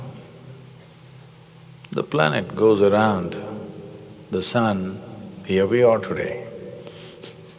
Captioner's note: laughter